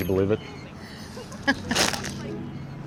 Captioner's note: laughing